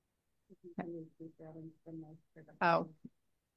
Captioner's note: speaking softly